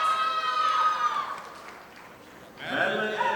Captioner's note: audience applauding